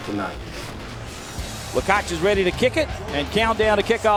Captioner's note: voiceover